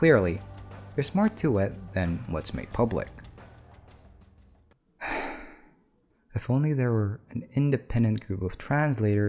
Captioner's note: sigh